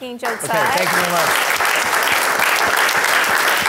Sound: audience applauding

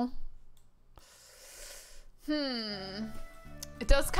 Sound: hisses

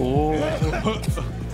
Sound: chokes

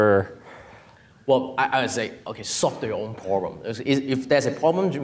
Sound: speaks in foreign language

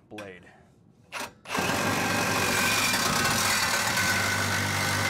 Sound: blade whirs

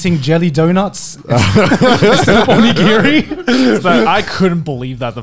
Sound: laughing loudly

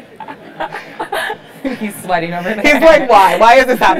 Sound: laugh

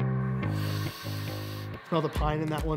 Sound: deep sniff

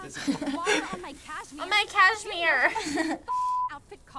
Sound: mocking

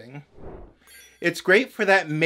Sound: whoosh

